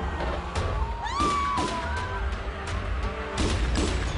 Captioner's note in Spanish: Gritos; Disparos